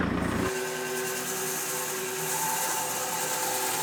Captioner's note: machinery whirring